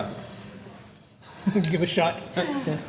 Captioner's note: laughter